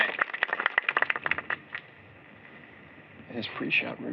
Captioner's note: applause